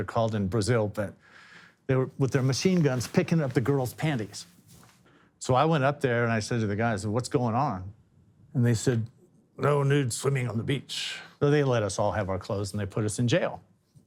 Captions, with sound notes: With their machine guns, picking up the girls' panties. So I went up there, and I said to the guys, "What's going on?" And they said… [gruffly] "No nude swimming on the beach." So they let us all have our clothes and put us in jail. One of the brighter bulbs in the group said,